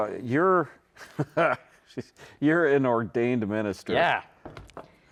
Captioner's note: laughs